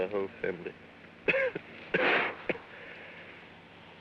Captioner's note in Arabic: سعال